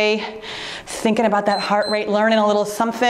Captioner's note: timer beeps